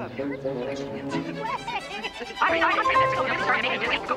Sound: women chattering

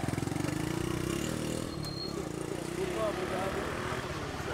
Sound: engine revving

